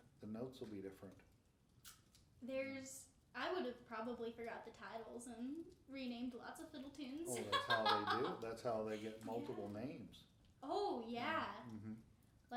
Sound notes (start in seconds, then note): 7.3 laughing